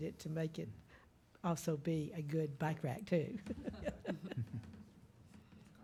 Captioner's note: laughs